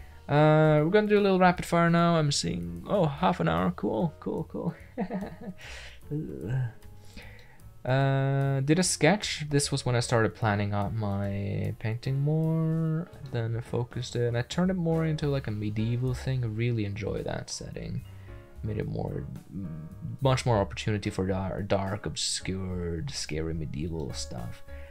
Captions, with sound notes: we're going to do a little rappid fire now, I'm seein, ah half an hour, cool cool cool. [ nervous laughter ] I did a sketch, this was when I tried to plan out my painting more Then I focused it, and I turned it into more like a medieval thing ,- -, really enjoy that setting made it more- much more opertunity for dark, obscure, scarey medieval stuff